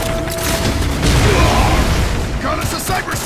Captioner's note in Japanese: 爆発音